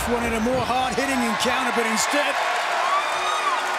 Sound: crowd cheers

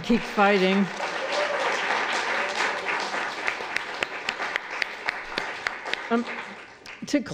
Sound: applause

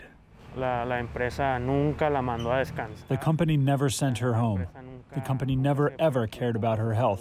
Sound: through translator

